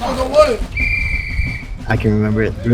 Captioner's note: whistle blows